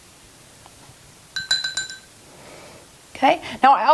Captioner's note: clattering gently